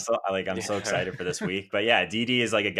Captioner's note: guys laughing